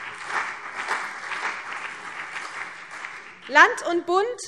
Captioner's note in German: Beifall CDU und BÜNDNIS 90/DIE GRÜNEN